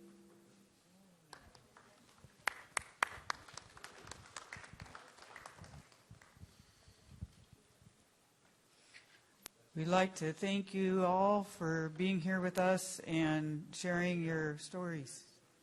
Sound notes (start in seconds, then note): 3.2 applause